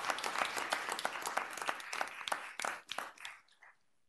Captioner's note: applause